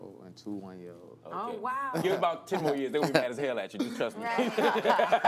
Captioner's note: laughter